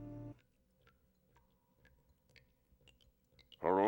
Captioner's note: water dripping